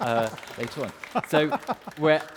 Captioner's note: audience applauds; laughs